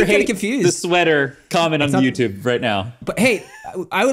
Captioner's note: laughs